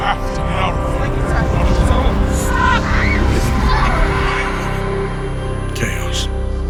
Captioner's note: layered panicked voices and distant explosions